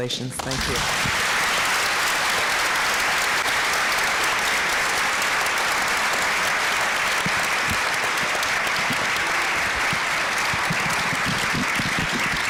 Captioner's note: applause